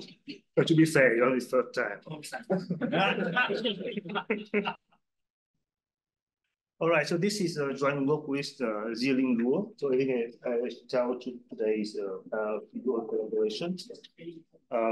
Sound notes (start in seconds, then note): 2.6 audience chuckles